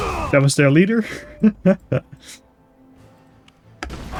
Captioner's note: laugh